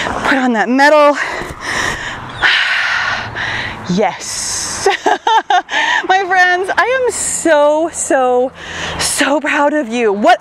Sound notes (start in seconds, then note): 4.6 laughs